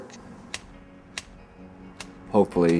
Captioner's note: metal clipping